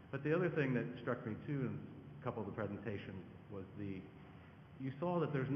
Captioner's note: none